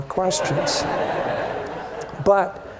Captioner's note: laughter